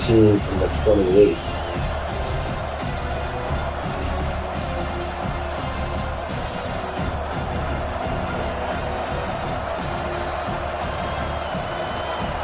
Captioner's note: crowd Noises